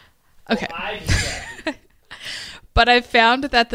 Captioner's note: laughs